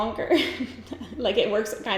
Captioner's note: giggles